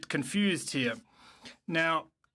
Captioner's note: speaking French